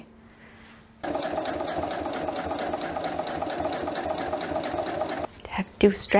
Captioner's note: sewing machine noises